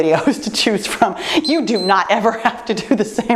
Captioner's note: timer beeps